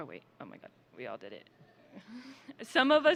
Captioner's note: laughs